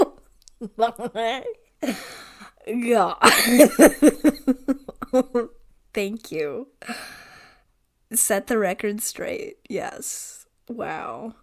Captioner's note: laughing; laughing